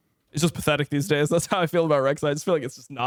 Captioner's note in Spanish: risas